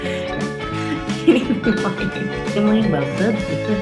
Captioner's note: laughing